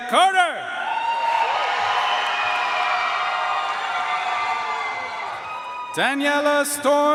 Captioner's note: audience cheering and applauding